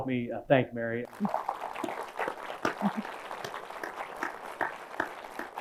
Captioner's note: audience applauds